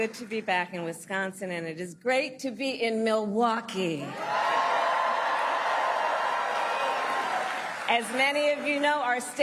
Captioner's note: applause